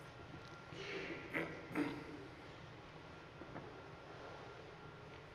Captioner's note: man clears throat